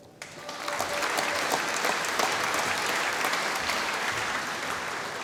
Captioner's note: applause